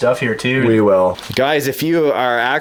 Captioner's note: voiceover